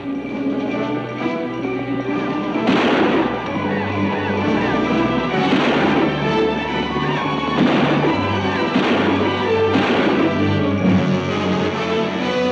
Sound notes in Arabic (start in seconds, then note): 2.4 موسيقى مثيرة; 2.5 أصوات البنادق